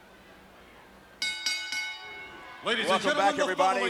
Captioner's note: ring bell clanging